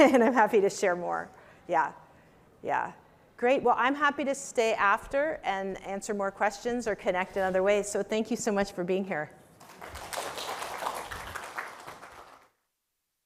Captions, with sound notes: And I'm happy to share more. Yeah. Great. Well, I'm happy to stay after and answer more questions or connect in other ways. So, thank you so much for being here. [APPLAUSE]